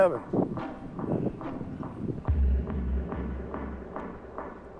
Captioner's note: wind blowing